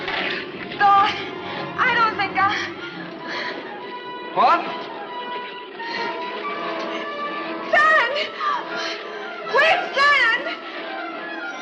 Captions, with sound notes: - Thorne, I don't think I... - What? - Sand! (gasps) We have sand!